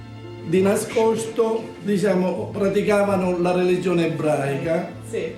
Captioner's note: speaks in foreign language